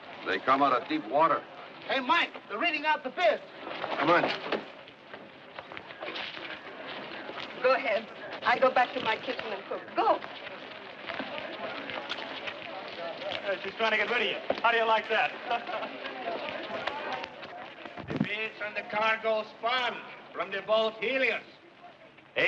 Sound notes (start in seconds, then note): 16.4 laughs